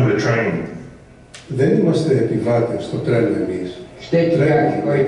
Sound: overlapping Multiple languages repeating the phrase This is the sound of a train

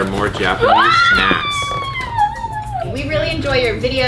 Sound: squealing

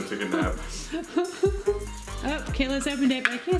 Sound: laughs

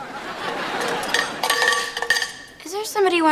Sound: ringing

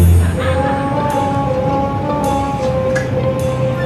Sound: laughing

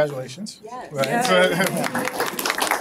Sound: applause

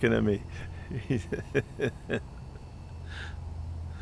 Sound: laughter

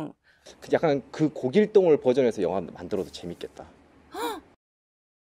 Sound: gasp!

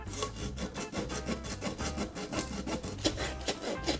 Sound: sawing Sound

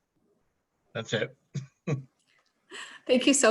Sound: chuckles

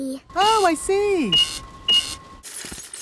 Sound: cash register beeping

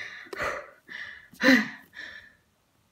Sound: breathe

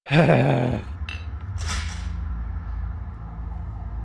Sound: sighs; glasses clink

